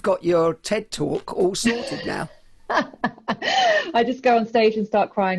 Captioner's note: laughs loudly